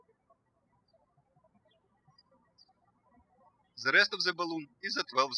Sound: birds chirping

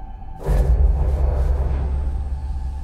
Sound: distorted thrumming; crackling

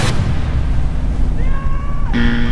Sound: shouts; buzzer

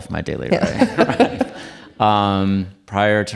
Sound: audience laughing

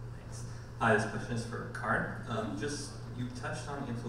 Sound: voiceover

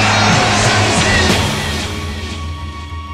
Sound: audience cheering

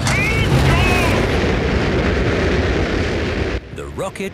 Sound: rockets blasting

